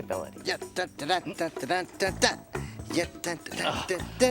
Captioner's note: humming